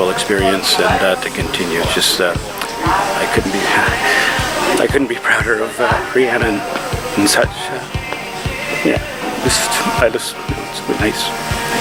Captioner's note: tears